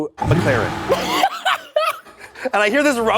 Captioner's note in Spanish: risas